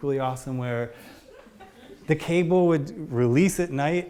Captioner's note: audience laughs